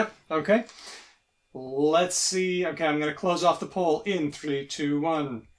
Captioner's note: beeps